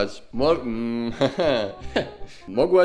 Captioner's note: laughs